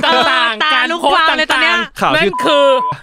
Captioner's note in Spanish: Risas